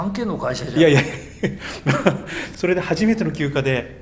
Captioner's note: laughs